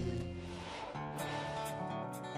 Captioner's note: buzzing